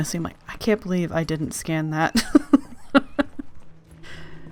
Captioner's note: laughs